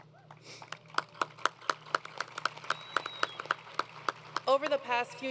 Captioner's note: applause